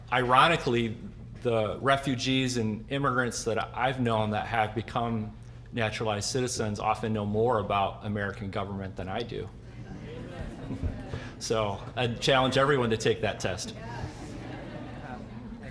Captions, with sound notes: Ironically, the refugees and immigrants that I've known that have become naturalized citizens often know more about American government than I do. (audience chuckling, murmuring) So I challenge everyone to take that test.